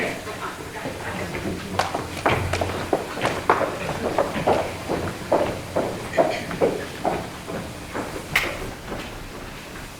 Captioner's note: footsteps exiting